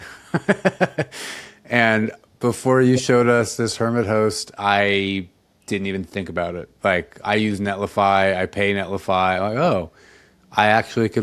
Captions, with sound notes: (laughs) And before you showed us this Hermit host, I didn't even think about it. Like, I use Netlify, I pay Netlify, I'm like, "Oh, I actually